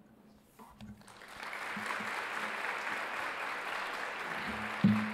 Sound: audience applauding

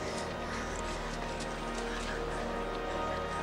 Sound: continues chanting

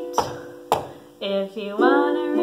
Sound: feet stomping

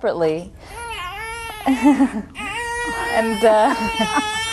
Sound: cries

